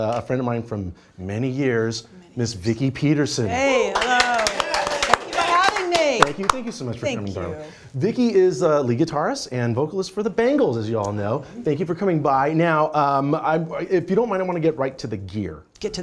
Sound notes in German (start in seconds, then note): 3.9 applaus